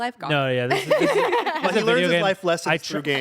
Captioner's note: everyone laughs